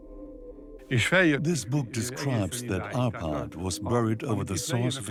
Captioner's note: dubbed in English